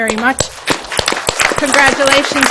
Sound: audience applauds

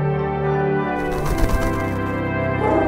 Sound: flutter

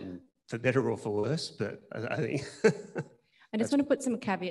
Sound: laughs

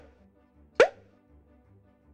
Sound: pop! pop!; pop!

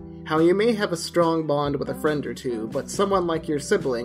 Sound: none

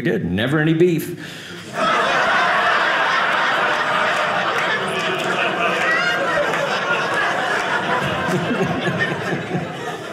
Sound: audience laughing

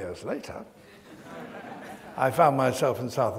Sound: audience laughs

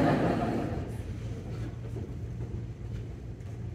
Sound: laughing

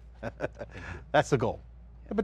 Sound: laughs

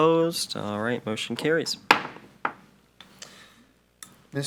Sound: gavel taps

